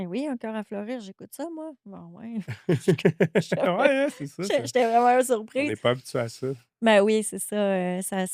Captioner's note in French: rires